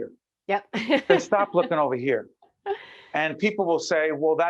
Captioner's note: laughing